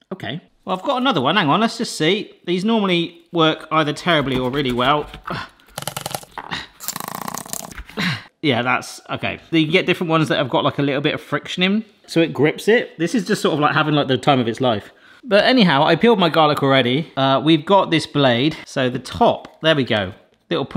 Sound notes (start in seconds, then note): none